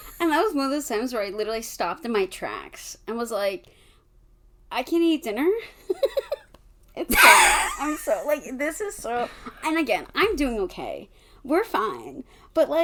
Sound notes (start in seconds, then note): 7.1 laughs